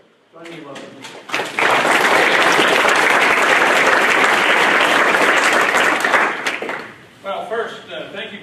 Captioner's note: applause